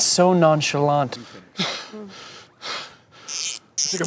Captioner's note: out of breath